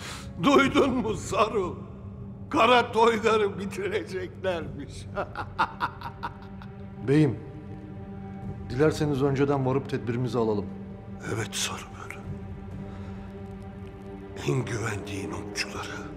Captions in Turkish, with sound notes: ...duydun mu Saru? Kara Toygar'ı bitireceklermiş. (Gülme sesi) Beyim... ...dilerseniz önceden varıp tedbirimizi alalım. Evet Saru. En güvendiğin okçuları...